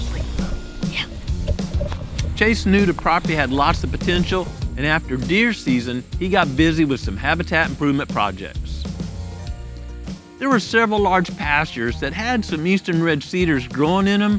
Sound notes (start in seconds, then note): 1.0 whispering